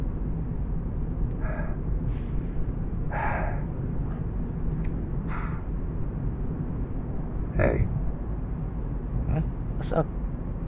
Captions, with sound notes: [BREATHES AGAIN] [BREATHES AGAIN] Hey. Hm, what’s up?